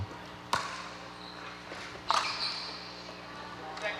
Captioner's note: ball bouncing